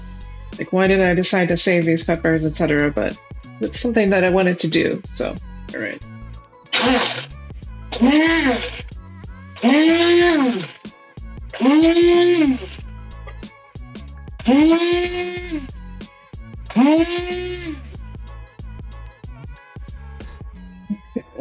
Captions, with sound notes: like why did I decide to save these peppers, etc. But it's something that I wanted to do. So, all right. [blender whirs]